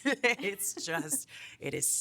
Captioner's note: laughing